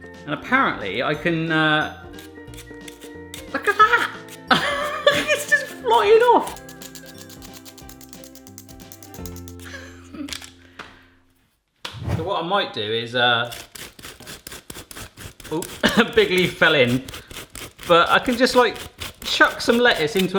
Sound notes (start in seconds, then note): 4.5 laughs